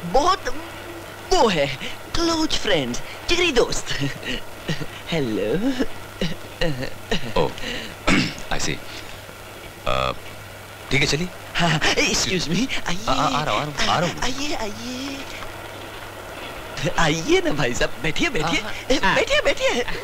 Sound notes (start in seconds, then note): 8.0 clears throat